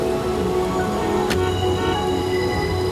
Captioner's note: horns honking